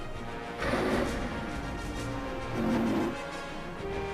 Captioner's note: rhino grunting